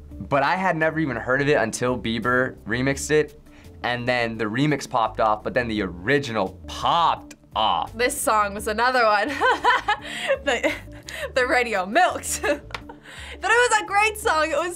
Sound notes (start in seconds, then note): 9.4 laughs